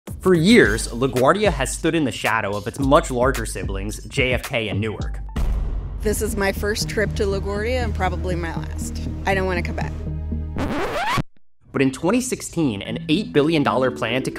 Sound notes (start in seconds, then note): 5.2 intense music; 10.5 record needle scratching